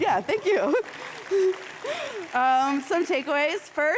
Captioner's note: audience clapping